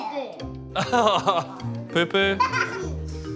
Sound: laughs; girl giggles

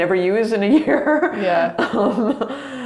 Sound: laughs

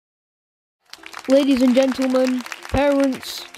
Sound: applause

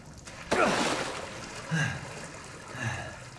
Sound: water splashing

